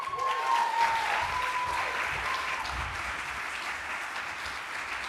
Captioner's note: applause